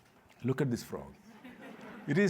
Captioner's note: laughter